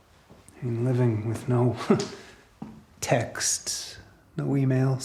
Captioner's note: chuckles